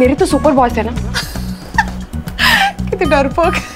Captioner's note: Gauravi laughing